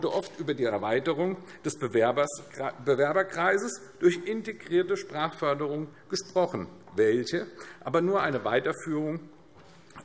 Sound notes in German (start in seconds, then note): none